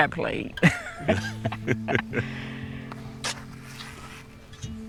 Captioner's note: laughter